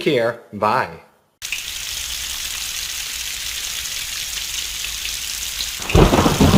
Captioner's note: rain; thunder